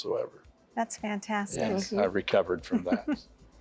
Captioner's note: giggle